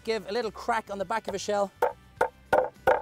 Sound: knife hitting shell

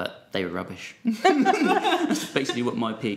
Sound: group chuckling

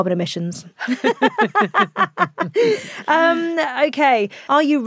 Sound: both laughing

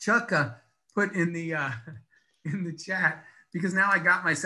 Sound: laughs

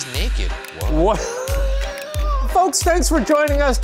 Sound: laughs

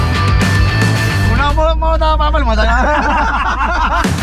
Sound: laughs

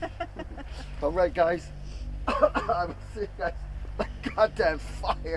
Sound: coughs

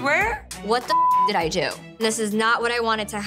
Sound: beep

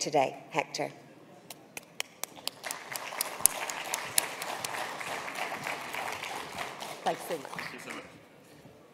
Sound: applause

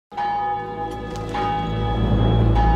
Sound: church bell tolling

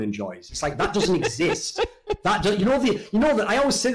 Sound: laughs

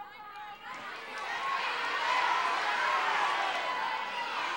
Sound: audience shouting

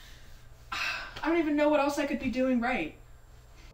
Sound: sigh

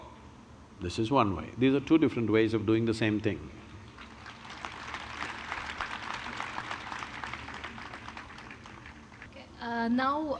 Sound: applause

